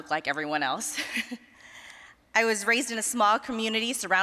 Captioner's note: chuckling